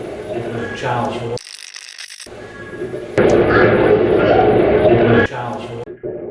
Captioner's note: radio scratching